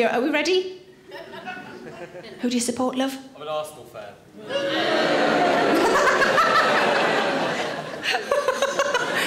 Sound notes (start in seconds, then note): 4.4 audience boos; 5.9 Sarah laughs